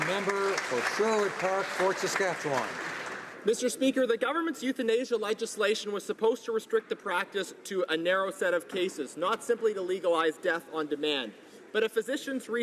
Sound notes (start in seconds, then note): 2.1 applause